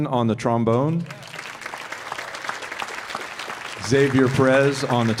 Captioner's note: audience applauding